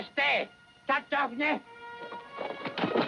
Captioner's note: Delgadito hablando idioma extranjero; música dramática